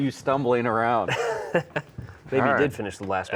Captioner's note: laughs